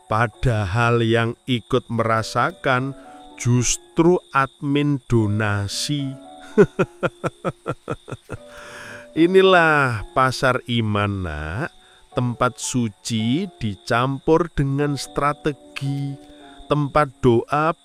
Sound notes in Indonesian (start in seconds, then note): 6.4 tertawa; 7.7 terkesiap